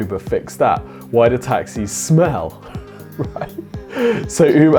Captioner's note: laughs